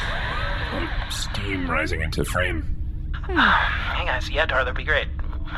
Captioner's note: breathy